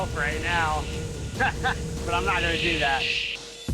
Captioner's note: laughs